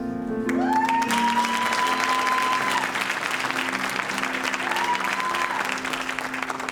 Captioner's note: audience applauding and cheering